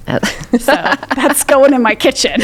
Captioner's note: both laughing